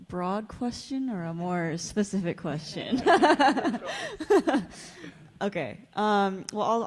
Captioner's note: laughs